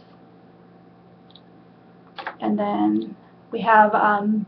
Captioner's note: clicking